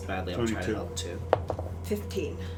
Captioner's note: dice roll